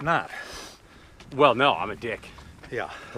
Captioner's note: sniffs